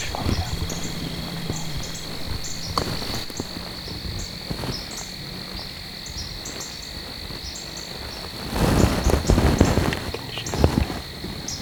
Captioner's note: insects